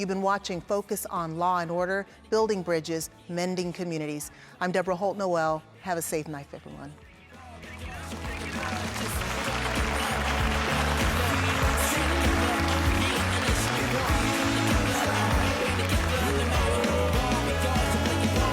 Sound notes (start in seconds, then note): 12.7 applauding